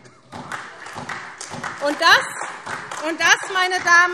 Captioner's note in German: Beifall SPD und DIE LINKE